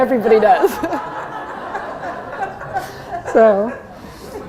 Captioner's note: laughter